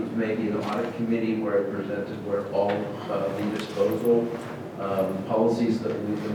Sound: speaking off microphone

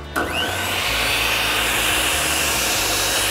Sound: saw buzzing

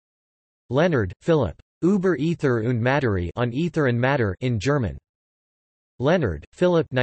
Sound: in German; in German

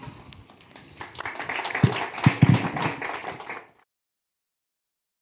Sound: applause

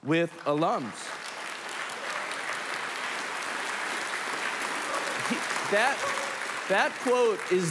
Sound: applause

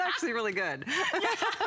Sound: electronic voice

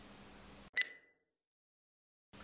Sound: ringtone sound

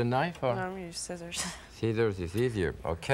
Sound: chuckling

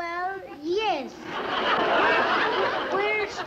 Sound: audience laughs

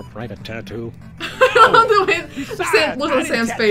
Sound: laughs

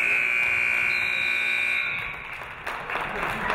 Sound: buzzer buzzes; referee whistles; audience clapping

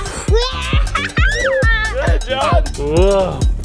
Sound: yelling excitedly

